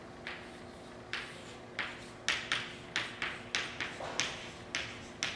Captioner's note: chalk writing on chalkboard